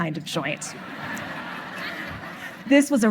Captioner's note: audience laughing